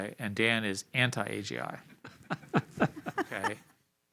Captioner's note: laughter